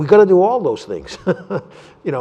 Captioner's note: laughter